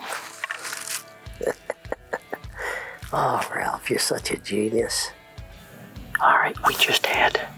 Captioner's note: chuckles